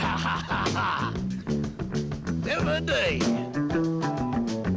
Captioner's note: laughs